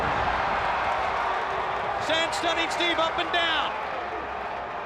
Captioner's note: crowd cheering